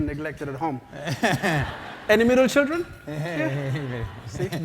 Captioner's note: laugh